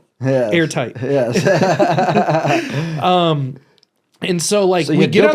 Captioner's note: laughs